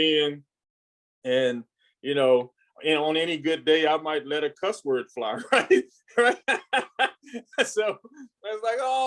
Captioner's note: laughs